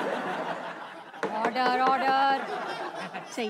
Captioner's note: All laughs; Gavel bangs